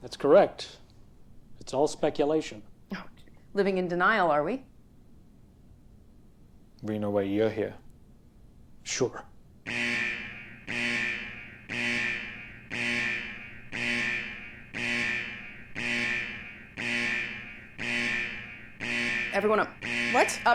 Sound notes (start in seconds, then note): 9.8 alarm ringing